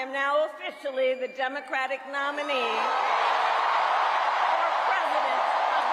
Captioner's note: attendees cheering